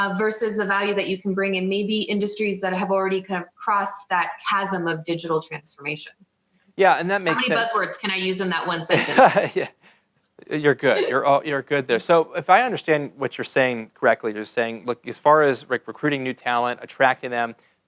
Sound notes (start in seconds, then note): 8.8 laughs